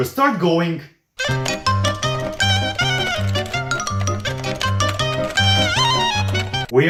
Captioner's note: furious typing